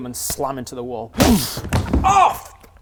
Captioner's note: boof!